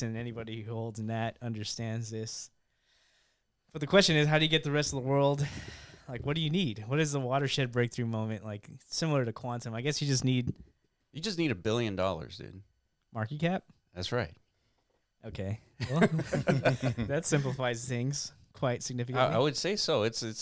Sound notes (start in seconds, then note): 15.8 laughing